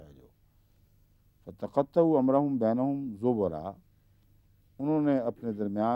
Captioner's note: Arabic